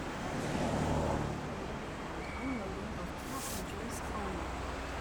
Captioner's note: woman On P.A